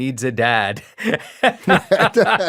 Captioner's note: laughs